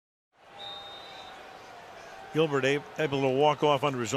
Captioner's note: whistle